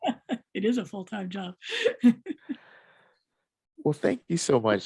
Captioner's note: laughing; laughing